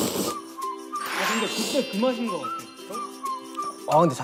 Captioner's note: is slurping noodles because they taste so good